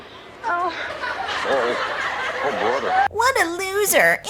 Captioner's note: an audience of ghosts laughs hysterically, welcoming their new member